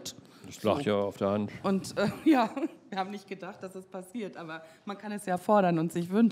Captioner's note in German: lacht